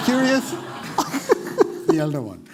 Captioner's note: laughter